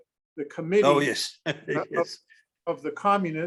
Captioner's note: laughs